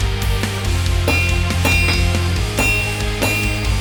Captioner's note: clangs